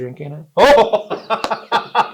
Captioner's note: laughs